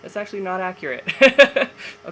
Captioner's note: laughs